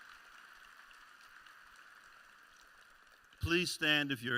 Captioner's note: applause